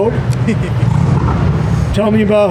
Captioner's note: laughs